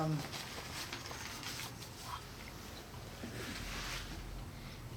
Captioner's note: papers shuffling